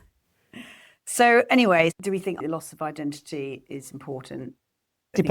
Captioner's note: laughs